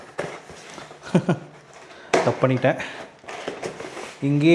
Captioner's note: laughter